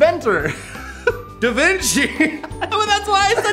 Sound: giggled

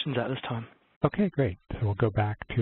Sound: voiceover

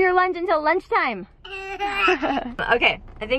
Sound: laughing

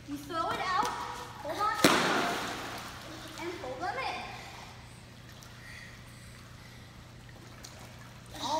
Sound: slap

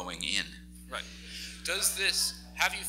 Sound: laughs

